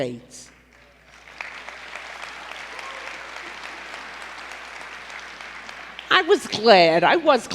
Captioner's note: applause